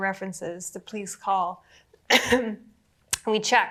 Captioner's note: coughs